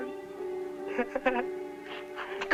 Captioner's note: mocking laughter